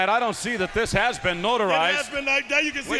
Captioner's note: crowd chatter